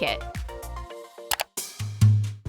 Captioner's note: clicking